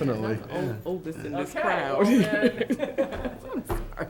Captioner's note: laughs